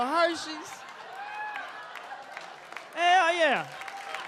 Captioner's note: audience cheers